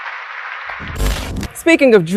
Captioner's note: television static